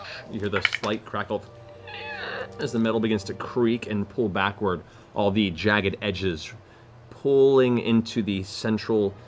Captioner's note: squeal